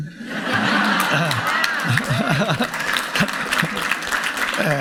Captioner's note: audience laughing